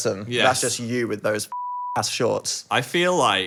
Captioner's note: beep